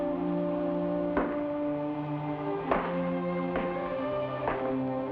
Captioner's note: shoes clack